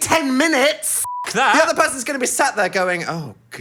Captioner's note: beep